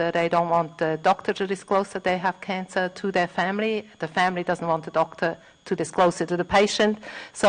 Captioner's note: none